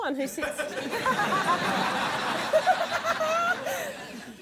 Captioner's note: laughter